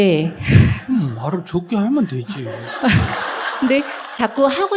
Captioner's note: audience Laughter